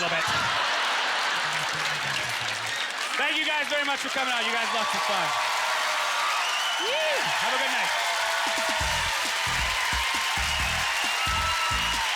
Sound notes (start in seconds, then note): 0.0 audience laughter; 6.2 cheers and applause